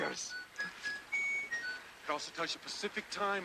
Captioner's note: watch merrily beeping